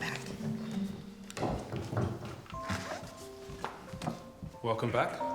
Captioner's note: footsteps plodding